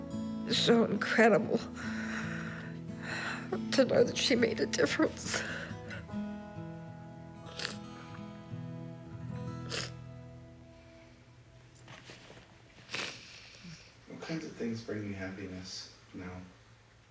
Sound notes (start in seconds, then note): 5.2 whimpering; 7.4 sniffs